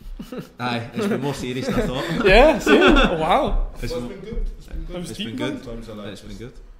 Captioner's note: group Laughs